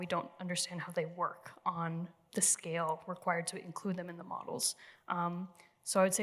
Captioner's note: none